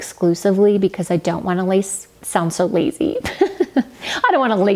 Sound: laughs

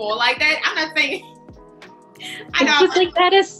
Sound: laughing

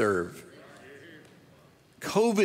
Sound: audience murmurs in agreement

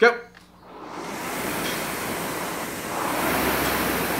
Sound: machine whirring

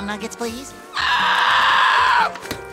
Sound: screaming

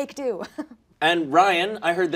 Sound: chuckling

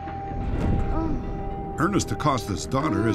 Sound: moaning

